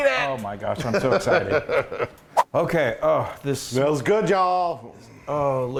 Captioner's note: laugh